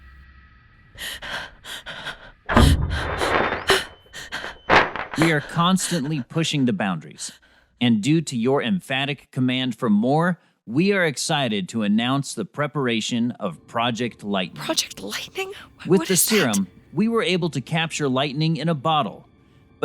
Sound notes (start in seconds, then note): 1.2 Sarah gasps